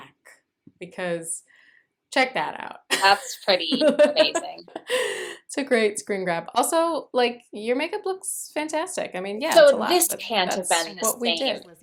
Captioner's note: laughter